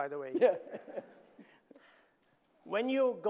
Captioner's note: audience laughing